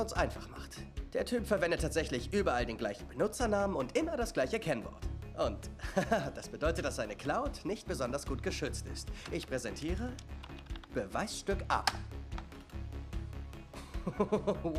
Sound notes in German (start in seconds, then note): 5.8 gluckst; 13.8 lacht